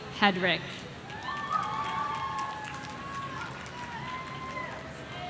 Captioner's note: audience cheering